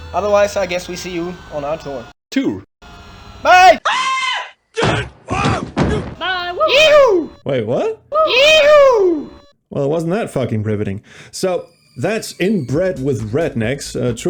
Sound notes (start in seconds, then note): 3.4 bobby sue, shouting; 3.5 homer screams; 7.9 slowed down